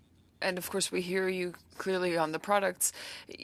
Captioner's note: speaking French